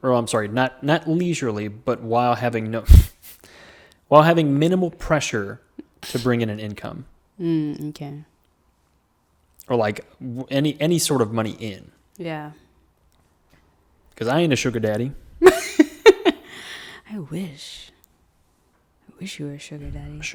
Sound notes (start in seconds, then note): 3.4 laughs; 15.4 laughs